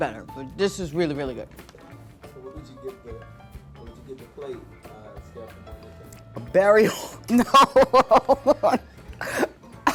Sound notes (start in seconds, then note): 6.9 laughs